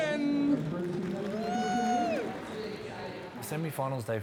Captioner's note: cheering